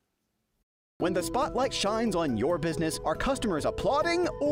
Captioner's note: voiceover